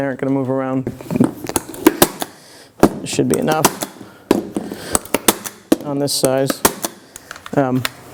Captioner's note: staple gun sound